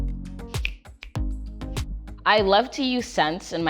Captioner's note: light music; fingers snap